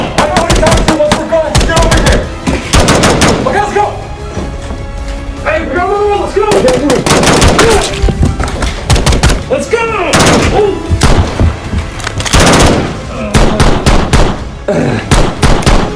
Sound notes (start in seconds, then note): 8.2 blood splatters; 14.6 groans in pain